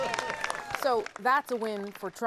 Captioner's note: applause